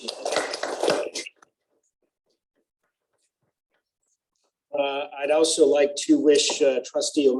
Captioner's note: applause